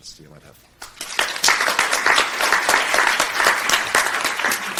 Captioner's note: crowd applauding